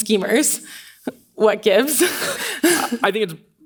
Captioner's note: laughs